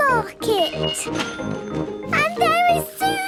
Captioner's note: cash register dinging